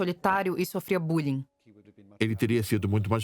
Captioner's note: voiceover